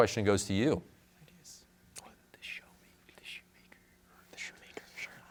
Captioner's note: whispers